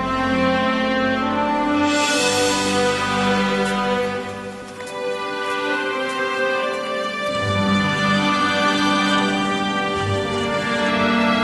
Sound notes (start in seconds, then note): 4.2 footsteps